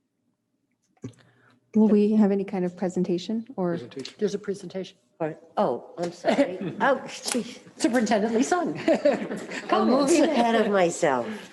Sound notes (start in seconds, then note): 8.4 laughs